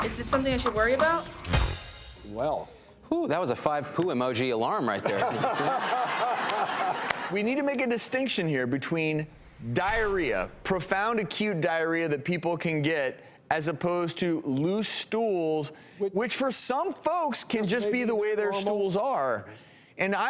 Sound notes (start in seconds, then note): 5.0 laughter